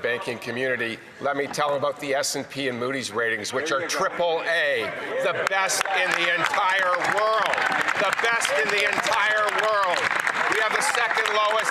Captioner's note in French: voix de l'interprète